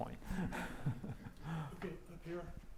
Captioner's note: laughs